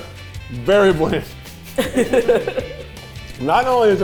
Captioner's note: cast laughing